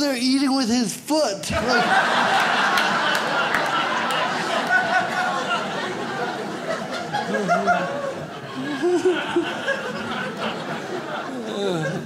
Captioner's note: audience laughs